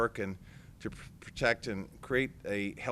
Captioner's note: none